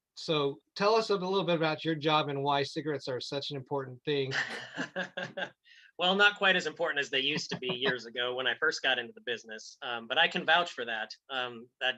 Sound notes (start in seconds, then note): 4.7 laughs